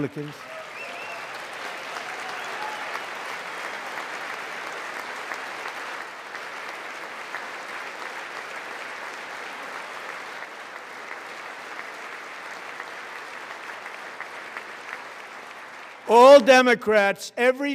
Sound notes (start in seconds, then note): 5.3 applause